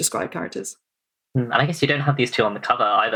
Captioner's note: laughs